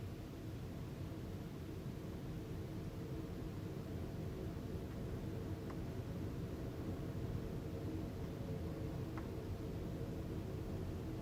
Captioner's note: rain and Wind